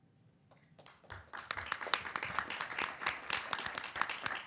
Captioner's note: applause